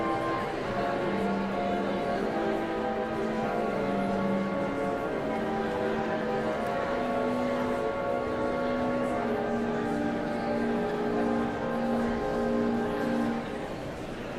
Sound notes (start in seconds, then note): 0.5 whimsical organ music continues; 4.8 audience chattering continues